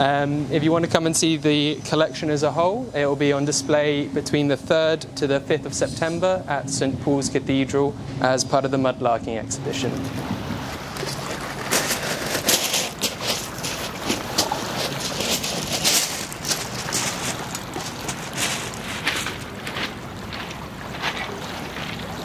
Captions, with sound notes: If you wanna come and see the collection as a whole, it will be on display between the 3rd to the 5th of September at St. Paul's Cathedral as part of the mud larking exhibition. (crunching of rocks) (lapping water)